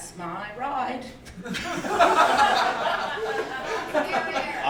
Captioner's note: audience laughing